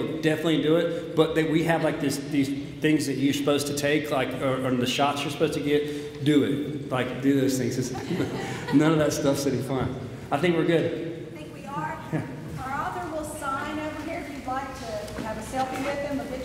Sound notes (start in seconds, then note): 7.9 audience laughs